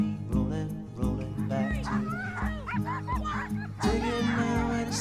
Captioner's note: barking